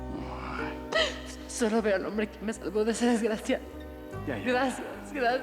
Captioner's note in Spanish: risas; sollozos